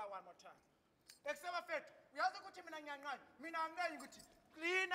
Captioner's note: speaking language